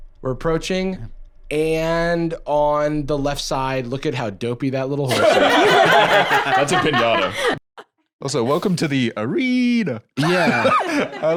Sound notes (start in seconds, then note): 5.1 all laughing